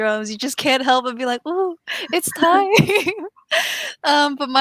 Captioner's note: laughs